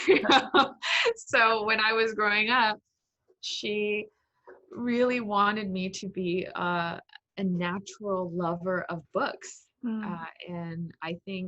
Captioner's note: laughs